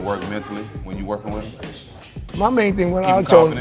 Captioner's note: Stephen Fulton exclaiming